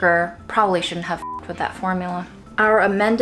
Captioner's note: beeps